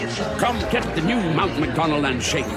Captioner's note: LiMu squawks